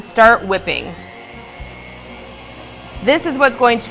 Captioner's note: mixer whirring